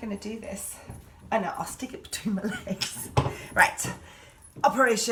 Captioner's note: laughing